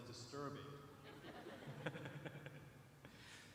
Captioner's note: chuckling